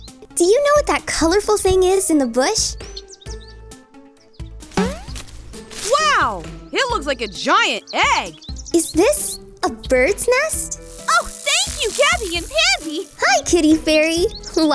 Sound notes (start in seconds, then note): 4.8 boing; 9.9 buzzing